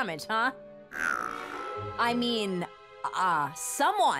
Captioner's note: Pascal snarls